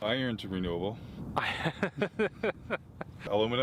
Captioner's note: laughing